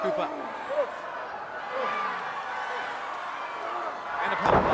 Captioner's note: crowd roaring